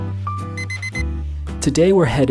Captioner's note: jazzy piano music; alarm beeps